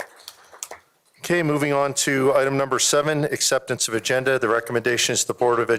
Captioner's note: applause